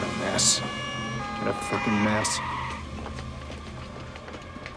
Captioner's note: brakes Screeching; siren Wailing